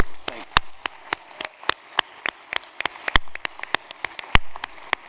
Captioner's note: applause